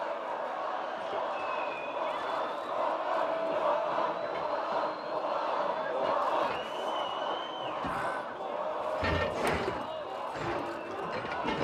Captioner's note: chant